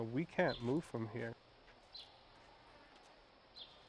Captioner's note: birds chirping